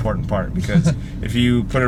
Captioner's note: laughs